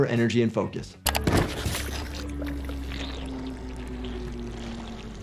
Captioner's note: head gurgling